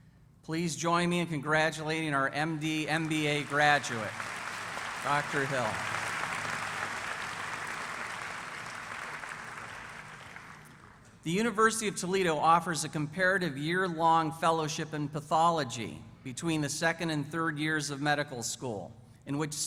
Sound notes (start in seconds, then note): 8.4 applause